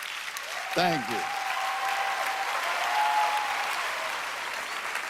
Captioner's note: applause; cheers and applause